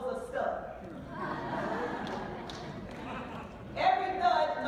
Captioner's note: laughing